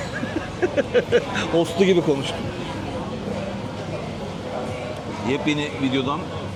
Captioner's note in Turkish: kahkaha